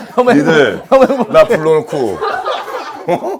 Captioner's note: haha